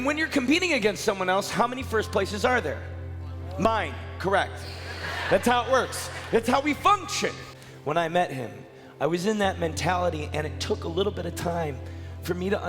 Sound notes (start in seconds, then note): 4.7 crowd laughing